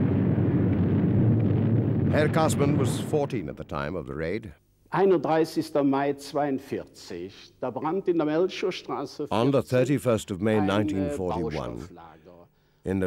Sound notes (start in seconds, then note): 5.0 speaking in foreign language